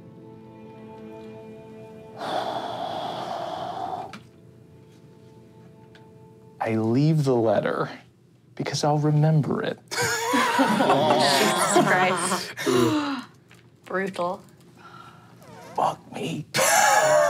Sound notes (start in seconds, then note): 2.2 sighs deeply; 10.0 laughing; 16.6 laughing